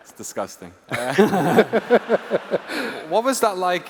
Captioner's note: laughter